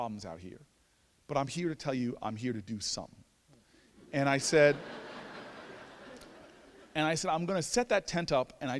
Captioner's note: laughter